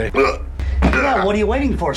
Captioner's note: groans